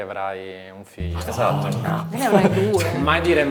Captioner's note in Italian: risate